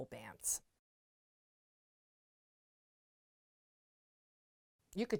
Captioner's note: no Sound Present